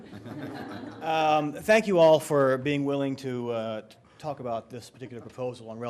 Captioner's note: laughter